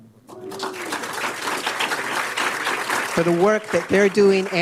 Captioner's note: applause